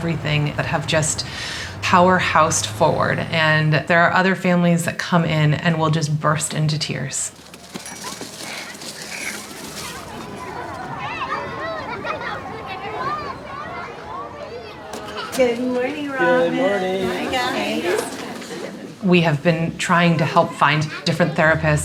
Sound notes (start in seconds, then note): 7.4 bell rings, child panting; 10.0 indistinct chatter